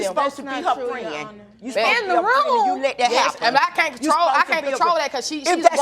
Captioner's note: all arguing